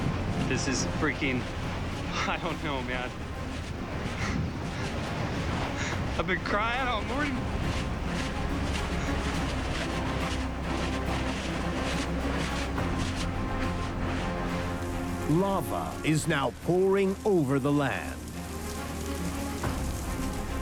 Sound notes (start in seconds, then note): 0.0 banging; 6.0 weeping; 8.4 lava churns; 17.7 hissing